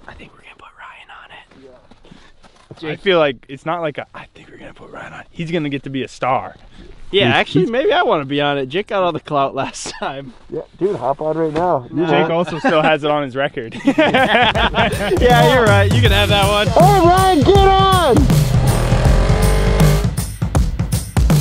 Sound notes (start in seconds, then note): 13.7 laughs; 18.8 metal music